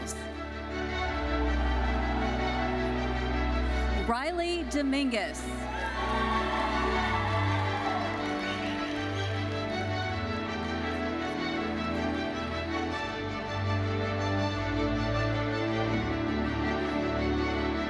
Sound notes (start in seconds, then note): 0.3 lively uplifting music continues; 5.6 audience applauding; 5.6 audience cheering; 8.5 lively uplifting music continues